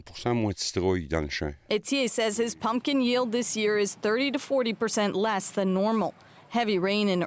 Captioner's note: speaking French